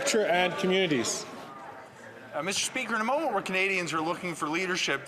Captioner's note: some Applause